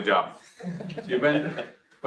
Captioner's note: audience laughs